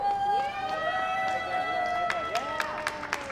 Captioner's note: audience clapping and cheering